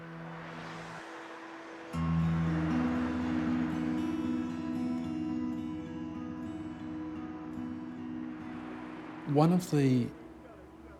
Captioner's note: traffic noise